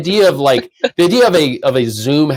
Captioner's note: laughs